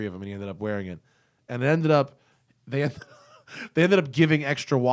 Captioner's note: laughter